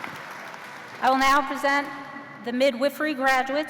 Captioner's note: cheers and applause